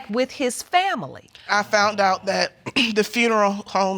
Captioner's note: clears throat